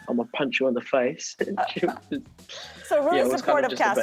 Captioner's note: laughs